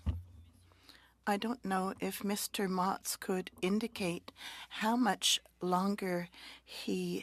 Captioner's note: speaking French